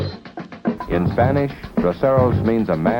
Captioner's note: speaks in Spanish